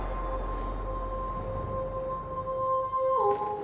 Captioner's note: slow howling